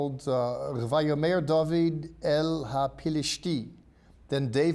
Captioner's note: speaking in Hebrew